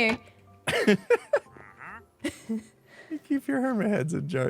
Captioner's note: laughs